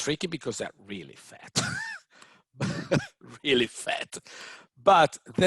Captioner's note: laughs